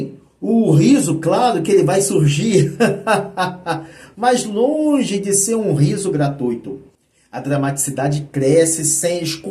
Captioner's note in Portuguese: risadas